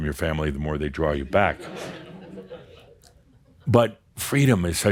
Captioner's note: some chuckles